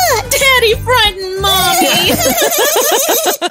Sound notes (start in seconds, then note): 1.4 laugh